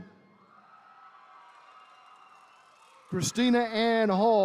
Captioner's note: attendees cheering